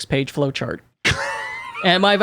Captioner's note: laughs